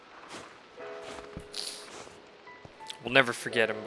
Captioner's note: sniffle